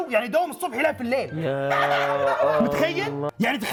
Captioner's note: laugh